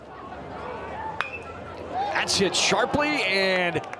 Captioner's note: bat dings